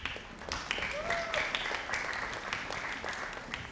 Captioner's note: audience applauding